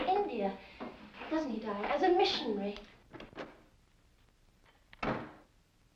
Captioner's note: door closes; door opens